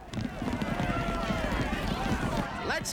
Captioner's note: all clamoring